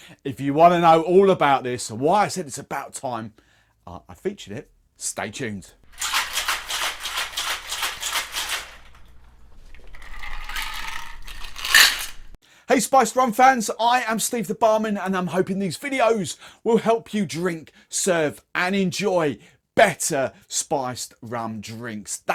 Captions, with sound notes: If you wanna know all about this and why I said it's about time I featured it, stay tuned. (ice rattling) Hey Spiced Rum fans, I am Steve the Barman and I'm hoping these videos will help you drink, serve, and enjoy better Spiced Rum drinks.